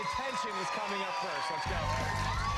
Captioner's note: cheers and applause